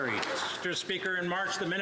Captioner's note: some Applause